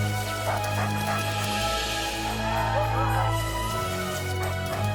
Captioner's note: Buck panting